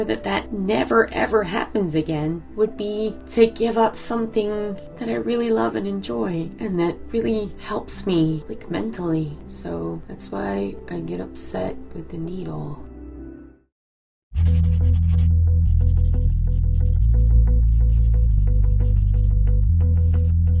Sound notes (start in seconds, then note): 14.3 pencil scribbling; 14.4 eerie music